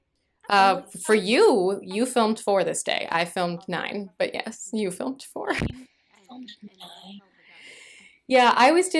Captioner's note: whispering